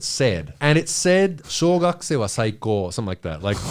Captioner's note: speaking in foreign language